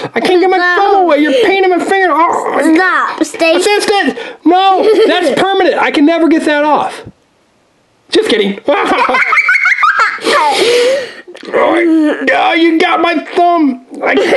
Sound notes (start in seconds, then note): 2.2 growls; 8.6 laughing